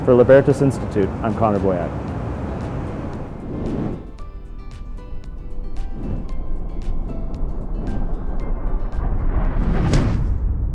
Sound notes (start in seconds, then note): 2.6 soft music; 2.6 whooshing